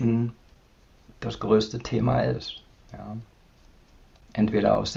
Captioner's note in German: none